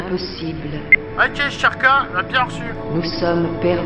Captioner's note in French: bip